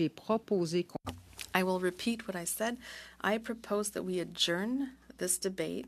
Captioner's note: speaking French